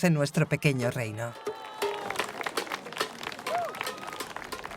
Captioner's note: crowd cheering